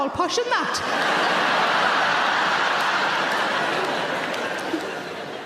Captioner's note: audience laughing loudly